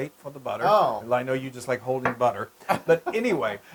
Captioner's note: laugh